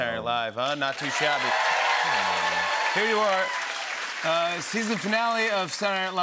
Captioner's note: cheers and applause